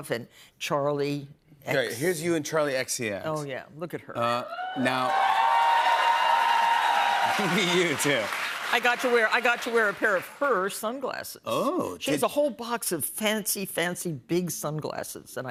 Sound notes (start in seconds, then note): 4.5 cheers and applause